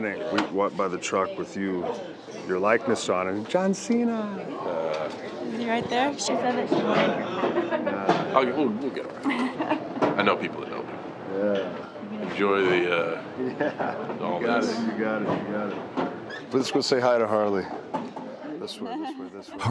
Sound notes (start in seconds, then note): 13.7 laugh